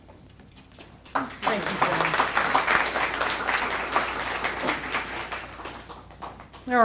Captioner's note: applause